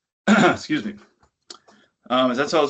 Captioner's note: clears throat